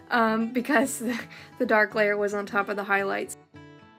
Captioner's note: laughter